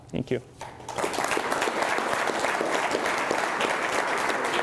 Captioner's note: applause